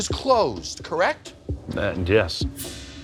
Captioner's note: stuttering